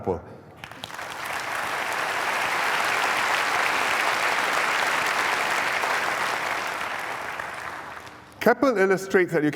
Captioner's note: applause